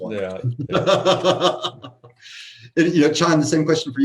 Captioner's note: laughs